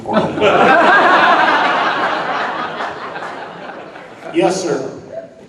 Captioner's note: audience laughing